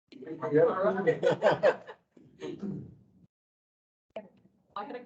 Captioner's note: indistinct chatter